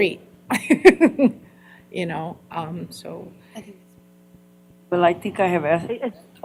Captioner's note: laughter